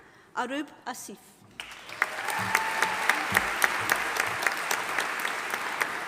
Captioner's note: audience applauding